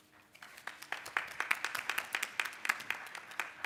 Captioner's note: applause